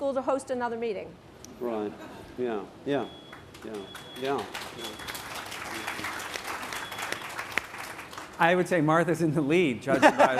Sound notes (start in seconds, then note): 3.3 applause